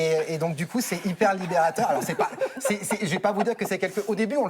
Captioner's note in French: rires